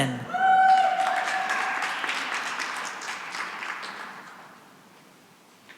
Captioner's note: cheering and applause